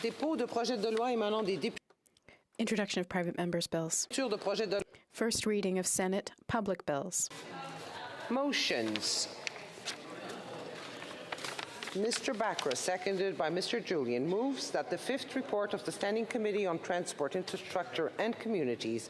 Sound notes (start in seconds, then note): 3.4 speaking FRENCH